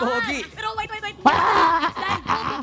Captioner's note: groaning